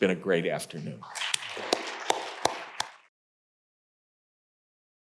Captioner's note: audience applauding